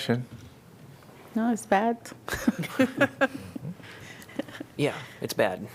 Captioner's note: laughter